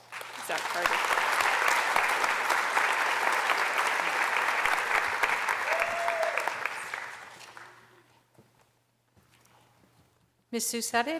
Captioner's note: applause